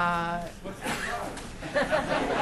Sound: voiceover; laughter

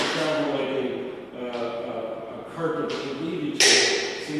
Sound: cane banging

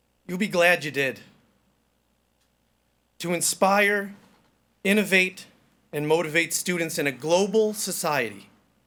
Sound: none

